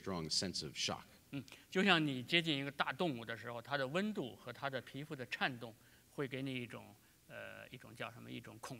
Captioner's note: speaking in Chinese